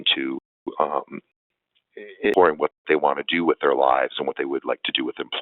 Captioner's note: audio dropping